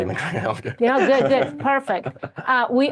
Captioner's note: chuckles